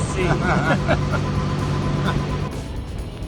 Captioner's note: laughter